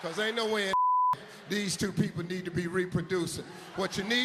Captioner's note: beep